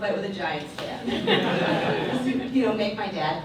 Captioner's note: audience laughs